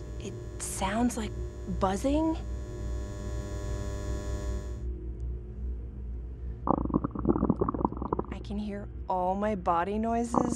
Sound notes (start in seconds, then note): 3.2 buzzing; 6.6 stomach gurgles; 10.3 stomach gurgles